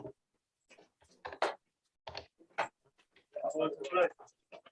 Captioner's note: indistinct conversation